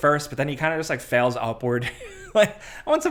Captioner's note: laughs